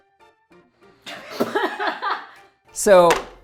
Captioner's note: laughing